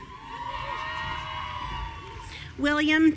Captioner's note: audience cheering